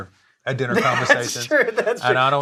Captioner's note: laughs